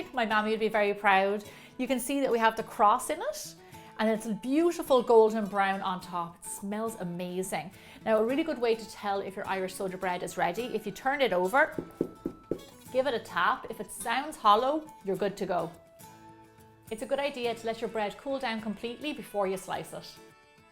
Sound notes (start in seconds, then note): 11.7 tap tap tap